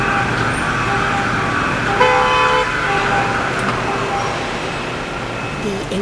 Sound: cars honking

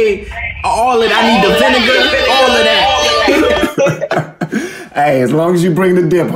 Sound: siren going off

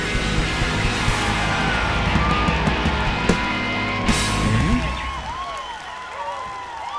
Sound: applause

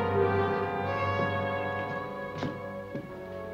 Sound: footsteps on stairs

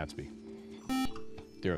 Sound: buzzer

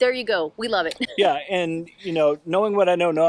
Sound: chuckles

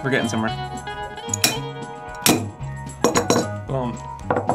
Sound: banging

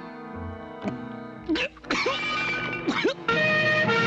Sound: coughing; siren blaring

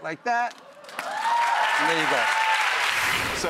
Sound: crowd cheering and clapping

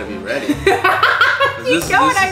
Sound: laughs

